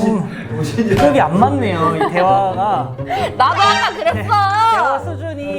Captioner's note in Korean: 웃음